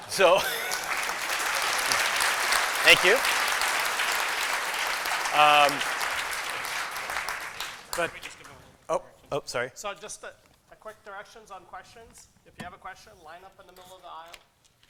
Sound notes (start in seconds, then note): 1.1 applause; 4.4 applause